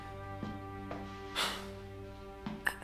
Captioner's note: sighs